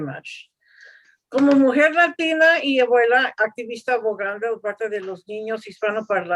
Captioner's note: speaking in Spanish